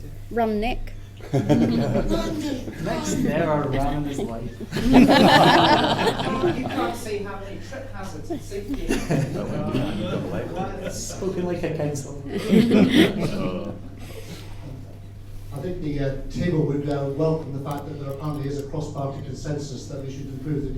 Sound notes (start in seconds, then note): 1.2 laughter